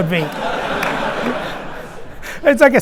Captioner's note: audience laughing